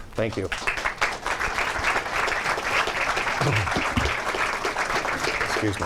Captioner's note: clapping